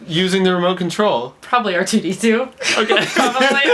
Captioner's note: laughs